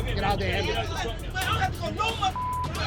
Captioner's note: man shouting